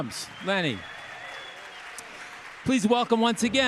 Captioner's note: audience cheering